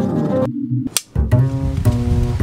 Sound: clapboard clacks loudly; groovy guitar music

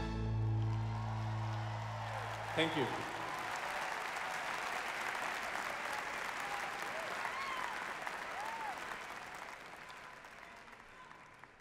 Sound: applause

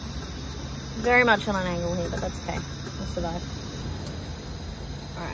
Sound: stirring and tapping

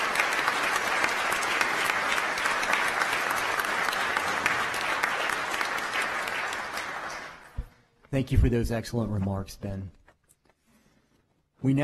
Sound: applause

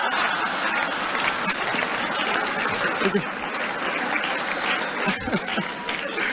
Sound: revived laughter; scattered claps

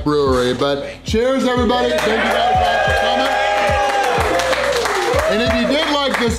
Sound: crowd cheering

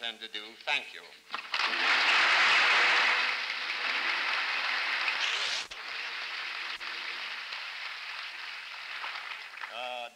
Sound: applause

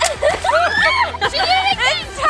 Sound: balloon explodes; girl squeals

